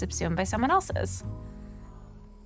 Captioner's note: breaths deeply